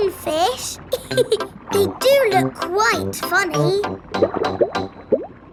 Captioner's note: laughs